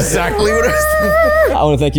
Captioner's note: hums loudly